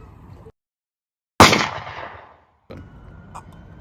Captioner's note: gunshot